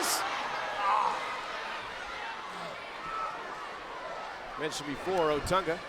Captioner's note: crowd chatter